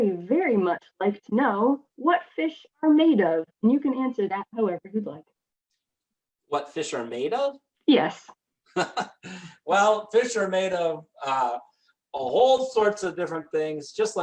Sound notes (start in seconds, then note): 8.8 laughing